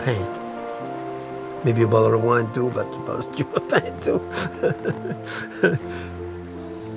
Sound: laughing

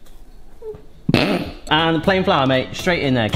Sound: laughing

